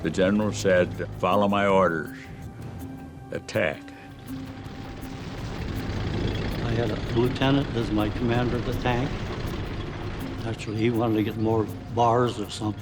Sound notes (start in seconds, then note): 4.5 tank engines whirring